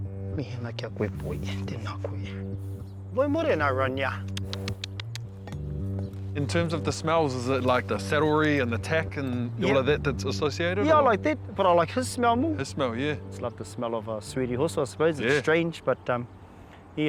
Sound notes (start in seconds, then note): 4.2 clicks tongue